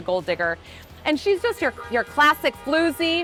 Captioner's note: horn honking